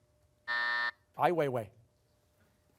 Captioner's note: buzzer